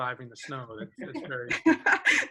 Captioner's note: group chuckles